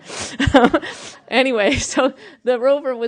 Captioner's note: laughter